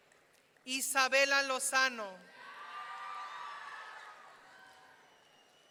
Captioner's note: audience cheering